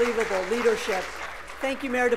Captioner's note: applause